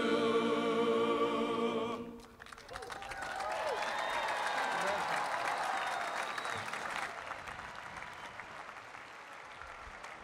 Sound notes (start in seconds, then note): 2.3 cheering and applause